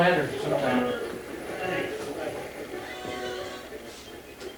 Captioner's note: radio channels changing